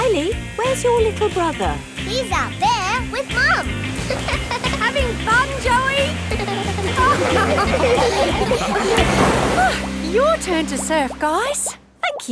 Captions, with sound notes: Kylie? Where's your little brother? He's out there with Mum. -(GIGGLES) -Having fun, Joey? (LAUGHING) Oh! Your turn to surf, guys!